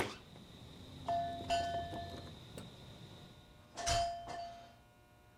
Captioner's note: door bell